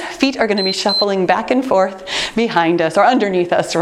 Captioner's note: timer beeps